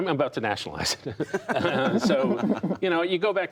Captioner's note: laughter